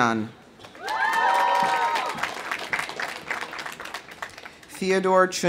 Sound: audience applauding; audience cheering

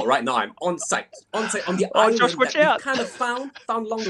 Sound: laughing

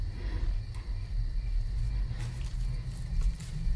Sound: Hannah breathing deeply

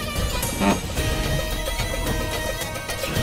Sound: chair scraping

